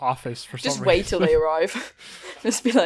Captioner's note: laughter